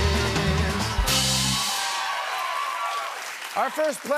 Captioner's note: cheering and applause